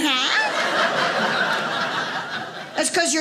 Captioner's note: audience laughing